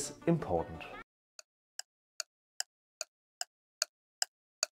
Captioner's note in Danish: clock ticking